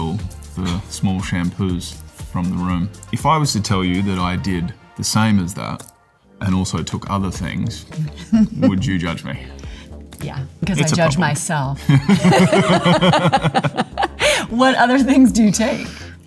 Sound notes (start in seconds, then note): 7.5 funky music; 11.8 both laughing